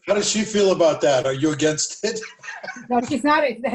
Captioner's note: laughter